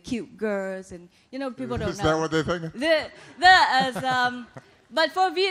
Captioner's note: laughter